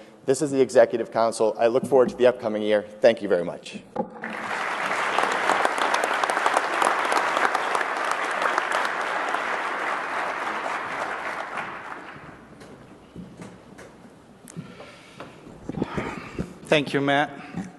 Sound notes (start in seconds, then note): 4.2 applause